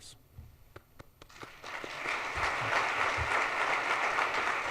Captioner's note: audience applauds